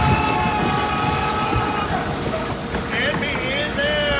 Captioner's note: men screaming; knocking